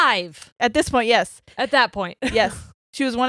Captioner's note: chuckles